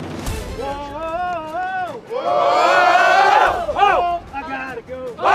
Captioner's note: crowd cheering